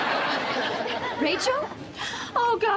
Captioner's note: audience laughs